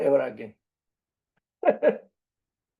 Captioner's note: laughs